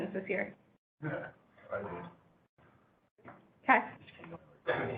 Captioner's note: chuckles